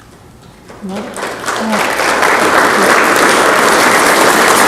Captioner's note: audience clapping